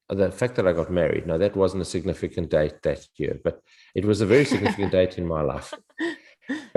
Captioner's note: all laugh